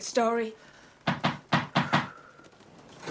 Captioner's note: banging at the door